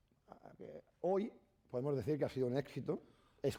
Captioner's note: speaking spanish